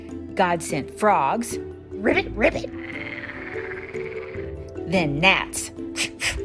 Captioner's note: ribbit, ribbit